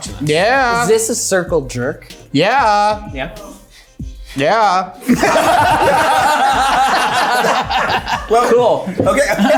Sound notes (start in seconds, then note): 5.0 everyone laughing